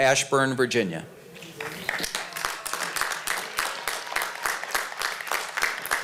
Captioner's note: applause